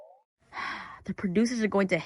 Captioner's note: sigh